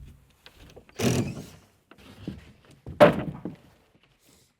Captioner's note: drill grinding